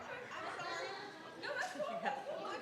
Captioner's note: laughter